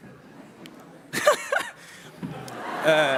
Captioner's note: laughter